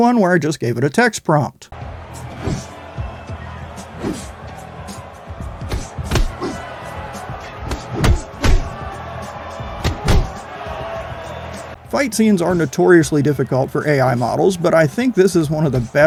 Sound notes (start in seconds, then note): 5.6 punching